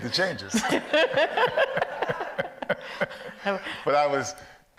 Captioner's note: audience laughs